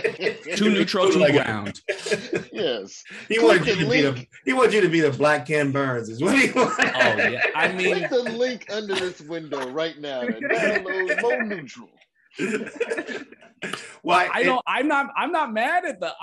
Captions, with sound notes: - Too neutral, too ground. - Yes. - He want you to be a black Ken Burns. What do you want? (laughs) - Oh yeah, I mean- - Click the link under this window right now and i don't know more neutral. (laughter continues) - Well, I'm not mad at the,